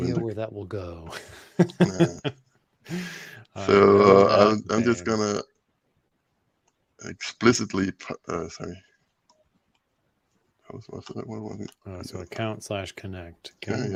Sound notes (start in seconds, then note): 1.2 laughs